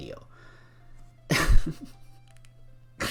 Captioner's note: snicker